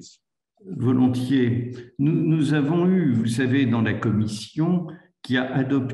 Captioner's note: speaks in foreign language